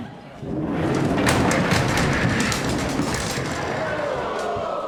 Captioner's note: chair sliding and rattling; audience gasps